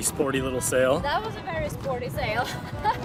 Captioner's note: chuckles